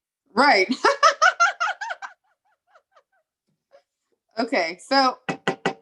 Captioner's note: laughs